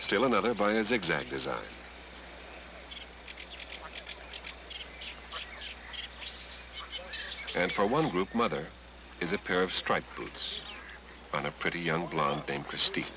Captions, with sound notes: Still another by a zig-zag design. [ Water Rushing, Birds Whistling ] And for one group mother is a pair of striped boots on a pretty, young blonde named Kristine.